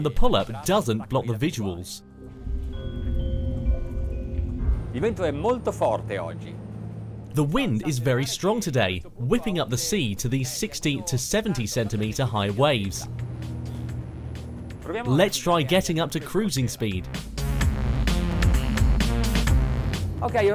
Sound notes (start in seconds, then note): 2.0 ominous music; 5.1 man speaks in foreign language; 13.4 funky music; 16.5 funky music; 20.3 man speaks in foreign language